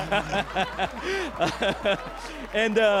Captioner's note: laughter